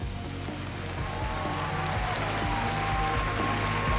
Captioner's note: cheering and applause